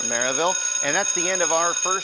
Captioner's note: bell ringing